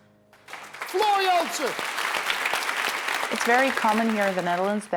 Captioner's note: audience applause